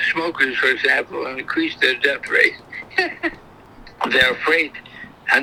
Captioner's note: laughs